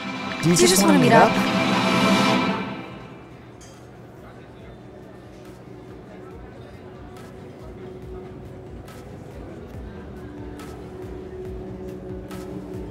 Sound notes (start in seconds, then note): 3.1 ambient restaurant noise, with EDM music playing in the background